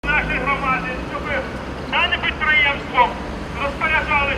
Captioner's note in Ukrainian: говорить в мегафон